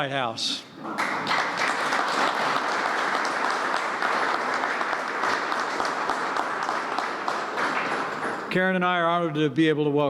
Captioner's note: applause